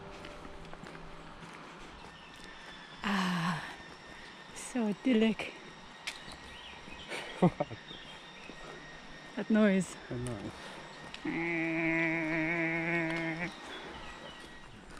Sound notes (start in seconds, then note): 2.4 obnoxious welding noise; 7.0 laughs; 11.2 imitating obnoxious noise